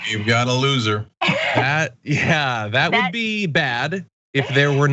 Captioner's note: laugh